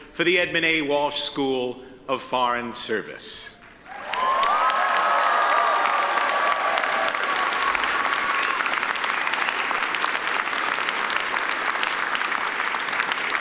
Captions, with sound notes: for the Edmund A. Walsh School of Foreign Service. (attendees cheer and applaud)